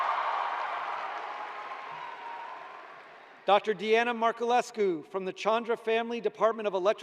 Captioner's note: cheers and applause